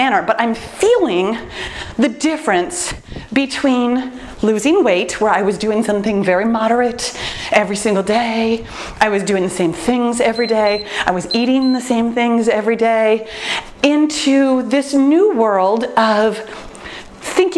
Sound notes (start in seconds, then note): 10.2 timer beeps